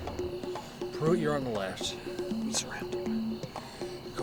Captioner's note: whispering